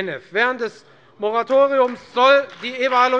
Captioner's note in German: Beifall bei der FDP